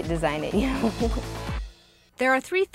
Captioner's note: laughs